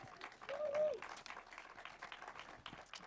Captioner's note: clapping